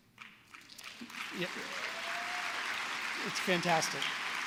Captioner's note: applause